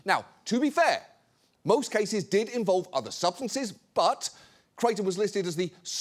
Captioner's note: none